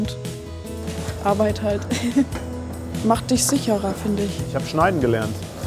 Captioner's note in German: lachend